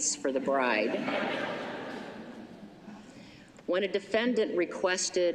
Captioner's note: laughter